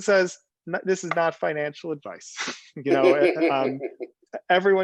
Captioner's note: laughing